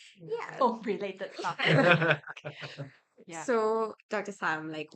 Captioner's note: laughs